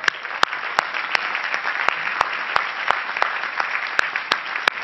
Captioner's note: crowd applauding